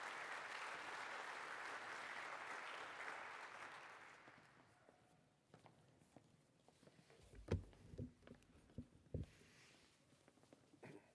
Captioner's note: applause